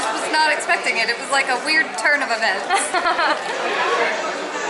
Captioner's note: laughter